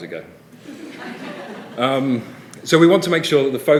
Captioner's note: laughter